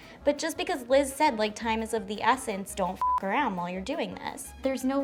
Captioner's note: beeps